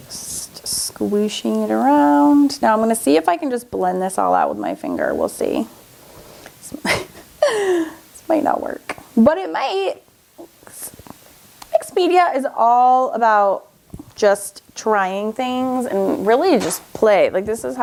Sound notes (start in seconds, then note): 6.8 laughs